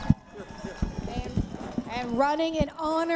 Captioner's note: cheering